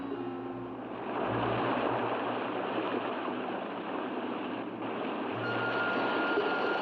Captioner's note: waves rolling; ominous music; waves rolling